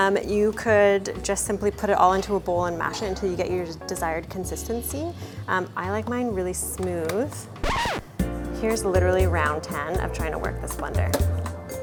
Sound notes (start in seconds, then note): 7.6 record scratches; 11.6 lid clunks